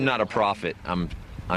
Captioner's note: old man voice